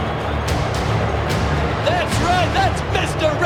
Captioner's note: intense music; audience booing